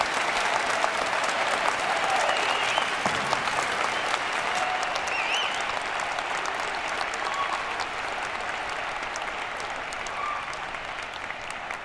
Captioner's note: cheers and applause